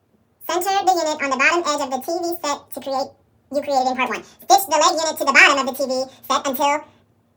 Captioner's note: sped up chipmunk voice